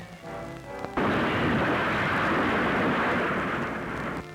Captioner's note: explosion